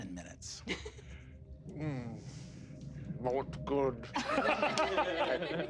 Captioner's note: players chuckling